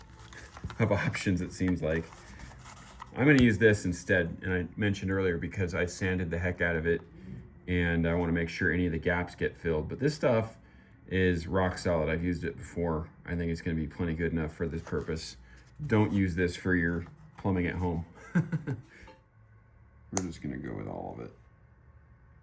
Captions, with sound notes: hundreds of options it seems like. I'm going to use this instead and I mentioned earlier because I sanded the heck out of it and I want to make sure any of the gaps get filled. But this stuff is rock solid. I've used it before. I think it's going to be plenty good enough for this purpose. Don't use this for your plumbing at home. (laughs) We're just gonna go with all of it.